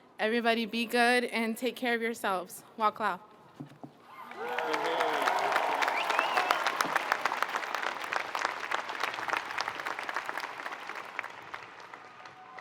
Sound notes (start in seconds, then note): 0.0 speaking foreign language; 4.1 audience cheering and applauding